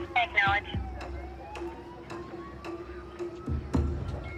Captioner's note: sirens wailing